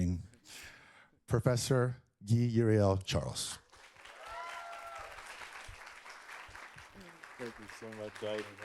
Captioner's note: applause